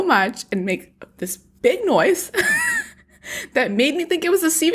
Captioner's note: laughs